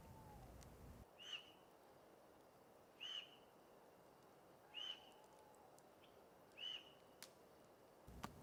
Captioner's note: birds chirping